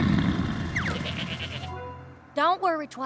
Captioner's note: dragon snoring loudly; bleats; whistle!